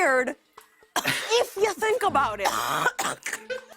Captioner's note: coughs